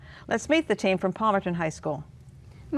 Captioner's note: none